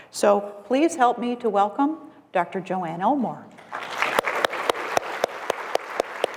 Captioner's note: applause